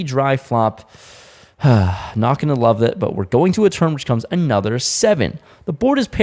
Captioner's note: sigh